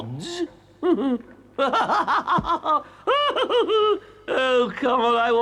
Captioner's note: Toad laughs